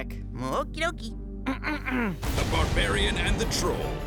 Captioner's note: clears throat; speaking as Announcer